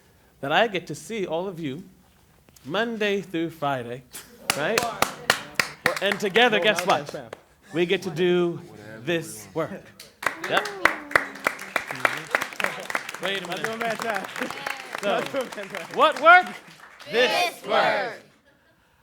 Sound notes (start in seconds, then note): 4.4 clapping; 10.5 simultanous chatter applause